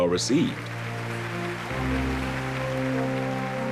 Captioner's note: audience applauding